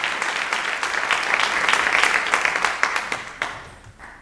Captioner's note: audience applauding